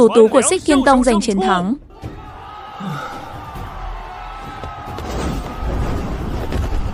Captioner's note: shouting